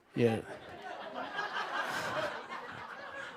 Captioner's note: laughter